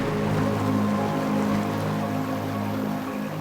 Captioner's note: water gurgling